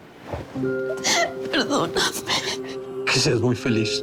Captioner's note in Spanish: Sollozos